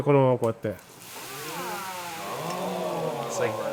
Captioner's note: chef speaking Japanese; sizzling sounds